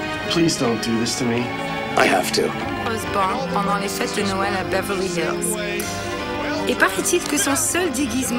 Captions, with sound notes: -Please don't do this to me. -I have to. [French spoken audio]